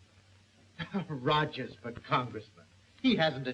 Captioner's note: chuckling